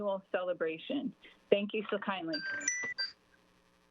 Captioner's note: chime